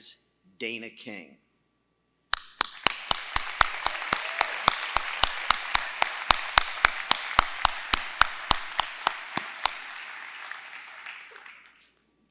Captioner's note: applause